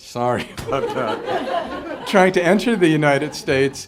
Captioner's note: audience laughing